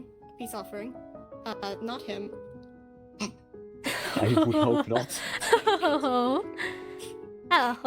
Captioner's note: laughter